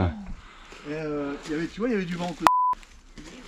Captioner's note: beep